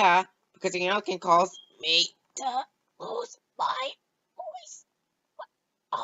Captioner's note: softer Voice